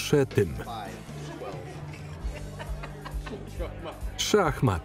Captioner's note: laughing